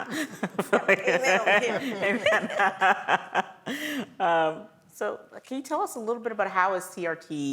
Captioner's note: laugh